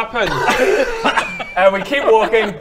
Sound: laughs

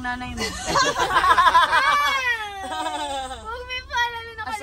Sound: everyone laughs

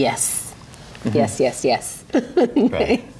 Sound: laughs

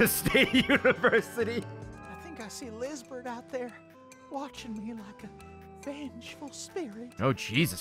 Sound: laughs

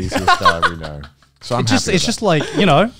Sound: laughs

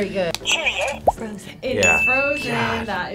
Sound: laughing; buzzer

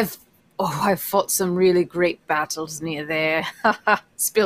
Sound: laughs

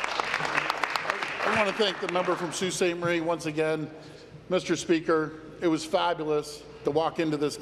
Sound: applause

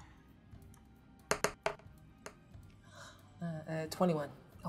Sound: die rolling

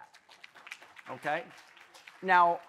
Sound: audience applauding lightly

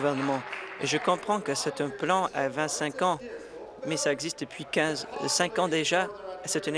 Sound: applause

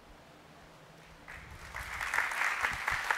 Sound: applause

